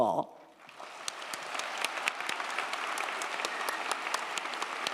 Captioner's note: crowd applauding